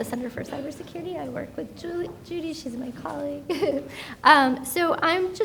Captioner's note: laughs